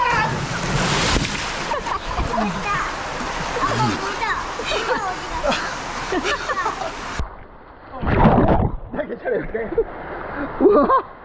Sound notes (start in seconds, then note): 4.5 laughing